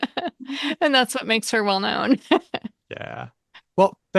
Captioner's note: laughs